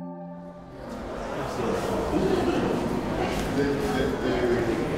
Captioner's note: people talking